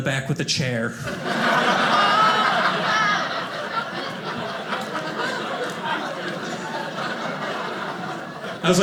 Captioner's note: audience laughing